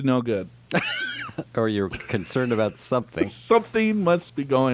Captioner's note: laughs